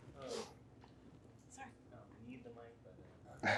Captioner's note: participants chatting